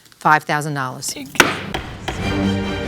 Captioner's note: gavel bangs